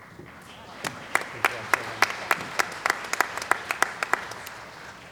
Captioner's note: applause